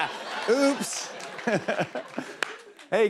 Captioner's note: laughs